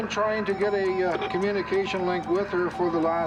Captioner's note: morse code beeping